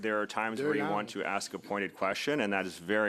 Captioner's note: speaking French